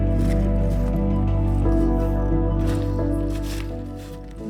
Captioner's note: ice crunching